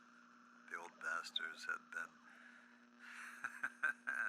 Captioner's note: laughs